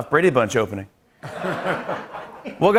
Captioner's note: laughter